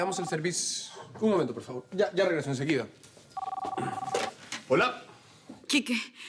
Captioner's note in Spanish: Suena el celular